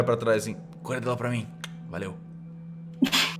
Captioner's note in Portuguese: click